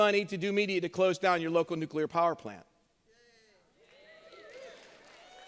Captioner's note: cheers